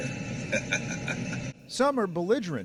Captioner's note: laughter